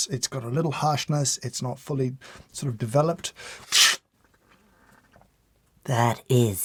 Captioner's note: slurps